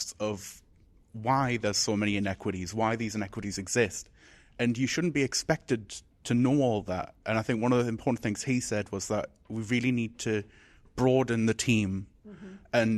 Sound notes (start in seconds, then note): none